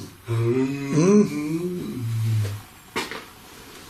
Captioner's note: humming